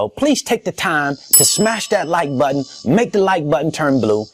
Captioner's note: bell dings